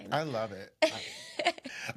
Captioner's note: laughs